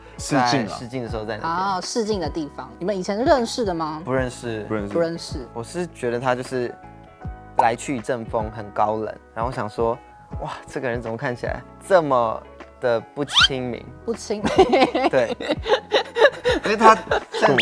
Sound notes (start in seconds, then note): 14.5 hahahaha